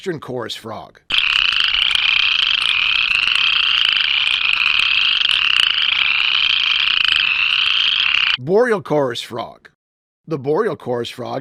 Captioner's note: upland chorus frog call